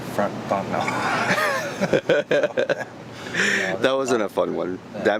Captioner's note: laughing